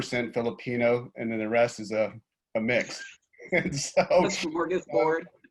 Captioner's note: laughs